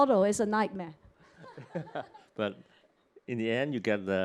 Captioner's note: laughter